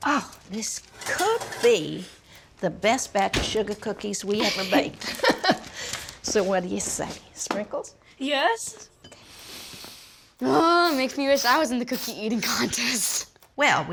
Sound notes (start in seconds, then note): 4.4 chuckles; 10.5 sniffs